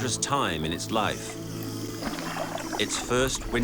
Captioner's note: dolphins clicking